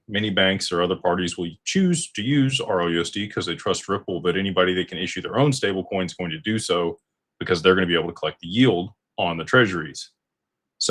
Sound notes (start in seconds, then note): none